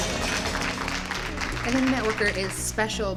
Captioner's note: audience clapping